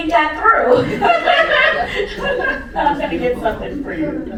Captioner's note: laughter